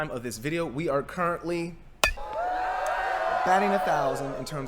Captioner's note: sound of baseball bat hitting baseball and crowd cheering